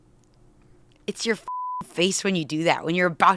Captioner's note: beep